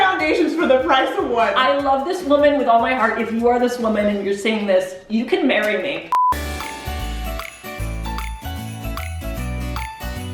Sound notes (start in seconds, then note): 6.1 beeping; 6.2 upbeat music; 7.3 blowing kiss